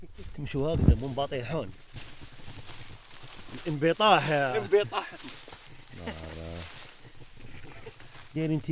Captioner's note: giggles